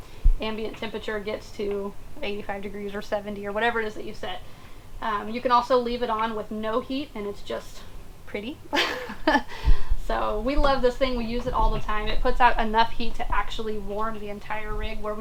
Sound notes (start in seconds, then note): 8.7 laughs